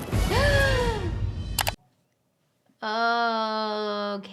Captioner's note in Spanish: música intensa; jadea